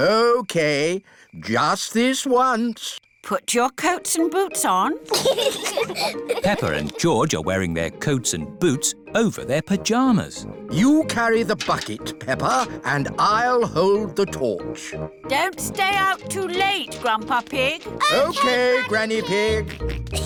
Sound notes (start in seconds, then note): 5.0 both giggle